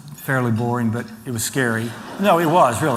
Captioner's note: laughter